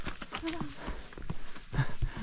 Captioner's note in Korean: 후다다닥